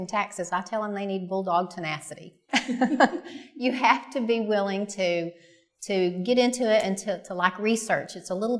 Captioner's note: laughter